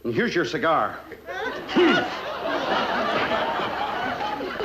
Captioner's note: audience laughing